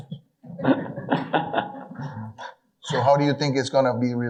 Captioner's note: audience laughing